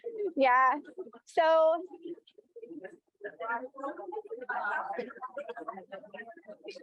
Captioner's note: audience members quietly talking